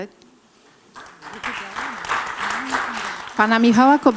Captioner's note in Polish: oklaski